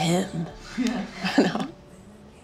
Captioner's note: laughs